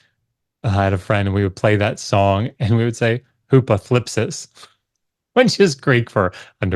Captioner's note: speaks Greek